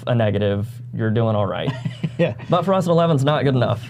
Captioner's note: laughs